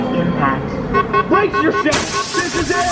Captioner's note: alarm beeping